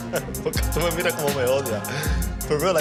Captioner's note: laughing; speaking Spanish